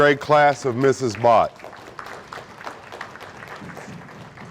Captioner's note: audience applauding